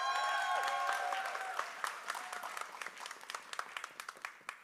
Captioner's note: applause